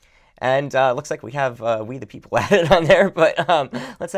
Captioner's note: laughs